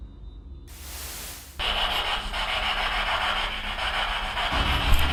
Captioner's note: static buzzing